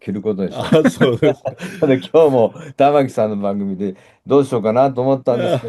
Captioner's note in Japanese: 笑い